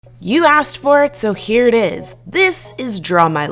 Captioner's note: voiceover